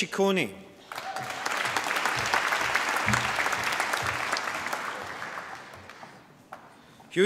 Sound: applause

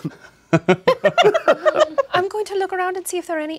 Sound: laughing

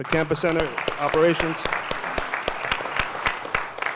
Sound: applause

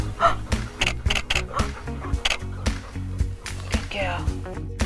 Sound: camera shuttering

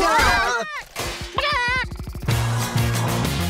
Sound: clucking

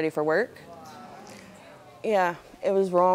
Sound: audience oohing

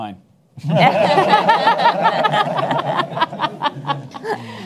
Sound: attendees laugh

